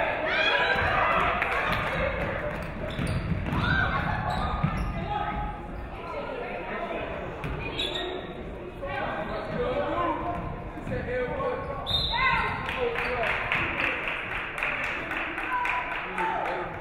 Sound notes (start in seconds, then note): 11.8 referee whistles